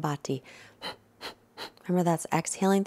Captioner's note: breathing noise